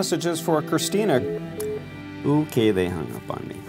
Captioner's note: busy signal